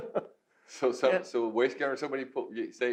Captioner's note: laughs